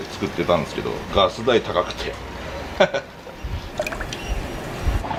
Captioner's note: laughter